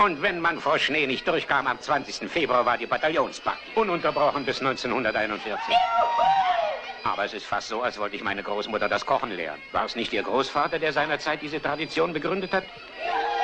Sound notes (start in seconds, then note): 5.5 man hollers